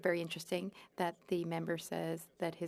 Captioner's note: speaking French